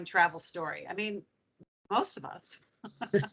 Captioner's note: laughing